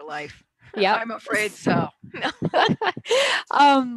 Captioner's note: laughs